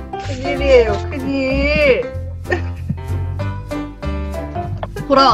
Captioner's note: sighs